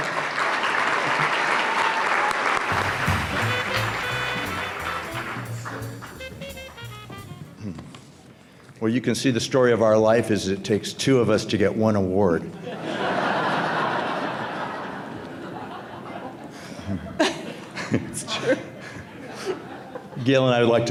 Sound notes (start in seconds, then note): 0.0 applause; 12.6 audience laughs